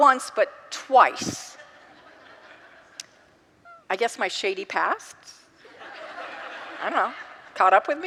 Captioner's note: congregants laugh